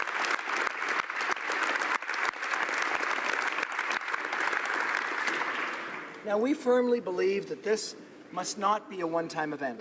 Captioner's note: applause